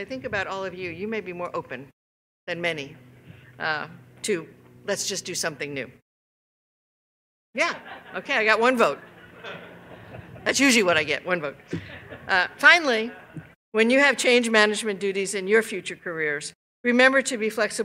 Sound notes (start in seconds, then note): 13.0 laughter